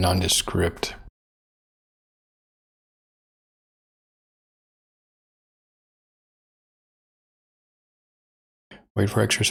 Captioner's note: blank Audio